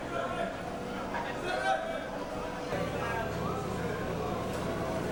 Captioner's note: people conversing